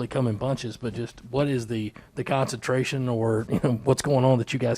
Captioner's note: chuckles